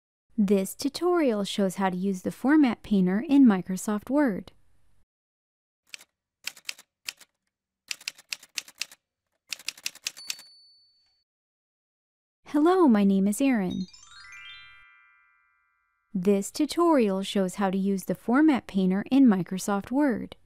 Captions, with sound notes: This tutorial shows how to use the Format Painter in Microsoft Word. [Typewriter sounds] Hello, my name is Erin. [Chime sounds] This tutorial shows how to use the Format Painter in Microsoft Word.